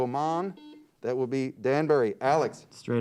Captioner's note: buzzer beeps